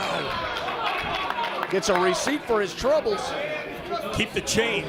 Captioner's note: applause